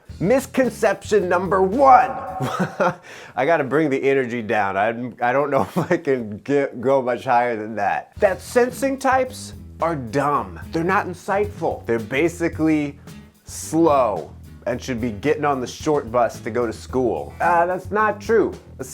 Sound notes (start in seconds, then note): 1.8 laughing; 5.6 chuckling